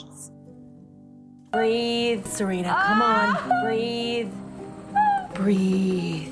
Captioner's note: Serena moans in pain